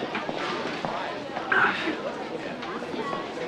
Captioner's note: sighs